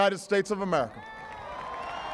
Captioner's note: applause